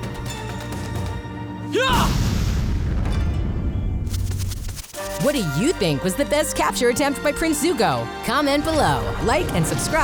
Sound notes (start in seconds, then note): 1.5 grunting